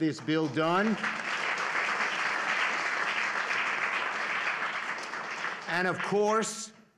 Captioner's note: applause